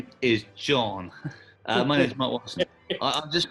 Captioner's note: chuckling